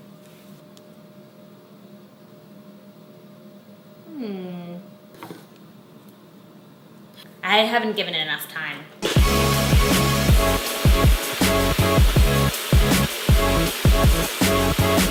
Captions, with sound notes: Hmm. I haven't given it enough time. (upbeat music) (blender whirs)